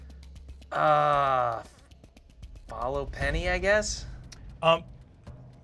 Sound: groans

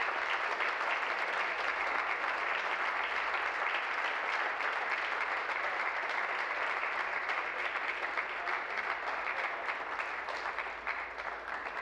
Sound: applause

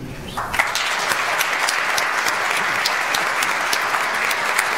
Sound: audience applauds

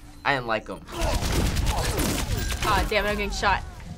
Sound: heavy gunfire

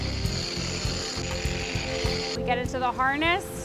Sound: reel screeches

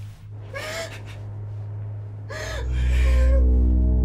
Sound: crying

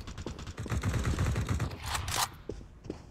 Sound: more Gun Sounds

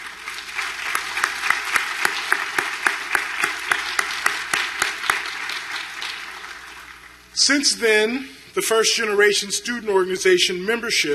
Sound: applause

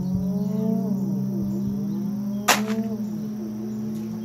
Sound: none

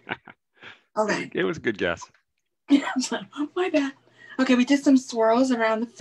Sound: laughs

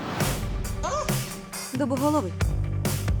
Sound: shrieks

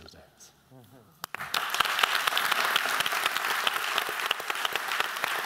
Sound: applause

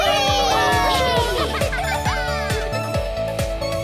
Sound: cheering; laughing

